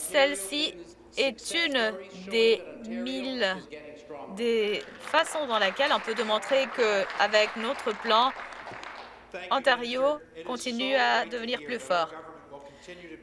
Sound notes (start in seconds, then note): 7.3 some Applause